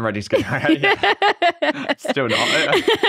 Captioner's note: laughs